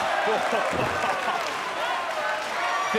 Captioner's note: crowd cheers